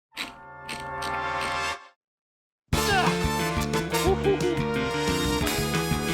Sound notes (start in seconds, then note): 0.2 wheel clicks; 2.8 grunts